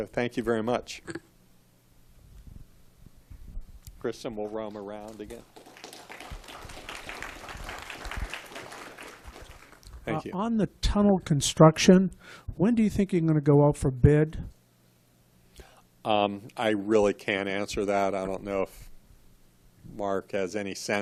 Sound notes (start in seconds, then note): 4.7 applause